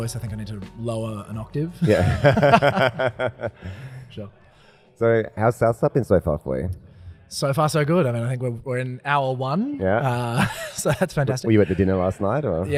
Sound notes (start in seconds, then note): 1.8 men laughing; 10.2 laughs